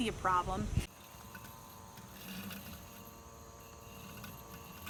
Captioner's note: lawnmower whirring